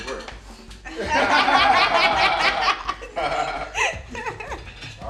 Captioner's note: all laughing